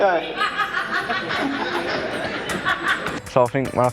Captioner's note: laughter